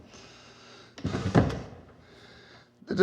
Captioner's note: drawer shuts